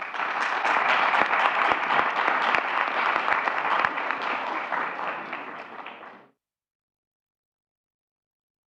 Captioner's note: applause